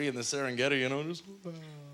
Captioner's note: yawn